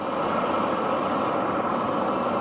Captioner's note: hissing